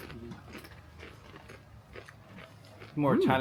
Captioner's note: chips crunching